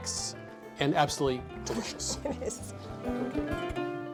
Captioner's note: laughs